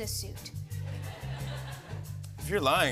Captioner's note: laughter